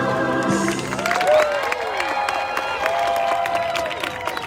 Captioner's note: crowd cheering